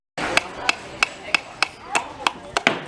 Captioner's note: hammer hitting nail